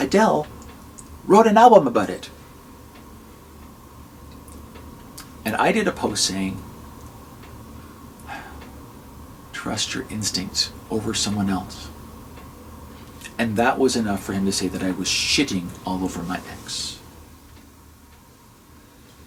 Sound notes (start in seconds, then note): 8.3 sigh